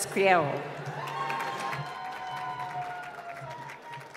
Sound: applause

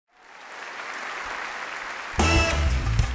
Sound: audience applause; upbeat funk music

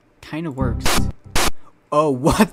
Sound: glitched Windows XP Critical Stop sound

